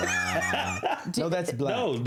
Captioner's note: laughter